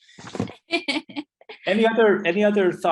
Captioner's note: laughs